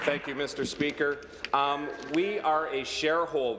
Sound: applause

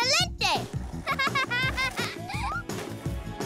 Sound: laughing

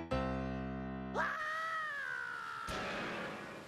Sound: screaming

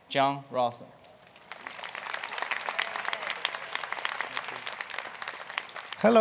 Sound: applause

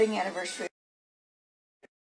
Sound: audio cuts

